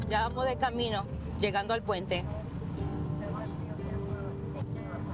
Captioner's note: woman speaking Spanish